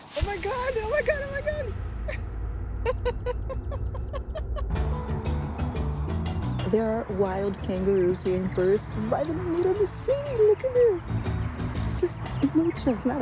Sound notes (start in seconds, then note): 2.8 laughter